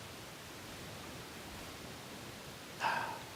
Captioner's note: none